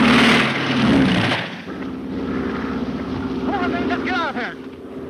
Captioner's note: guns firing; Phantom buzzing